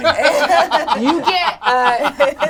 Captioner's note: all laugh